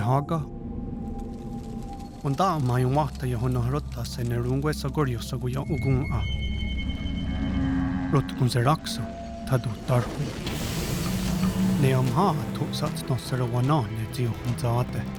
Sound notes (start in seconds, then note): 0.8 fire crackling; 7.9 moaning and roaring